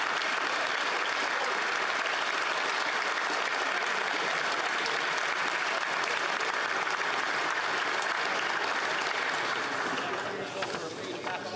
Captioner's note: applause